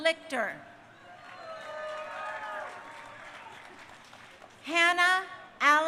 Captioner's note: crowd cheering